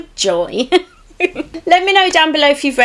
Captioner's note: laughs